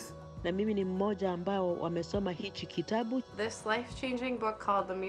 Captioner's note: speaking in foreign language